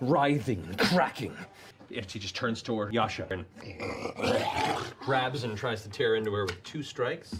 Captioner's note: greughargl